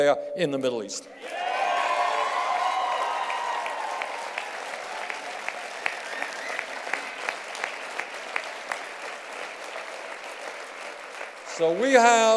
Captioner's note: cheers and applause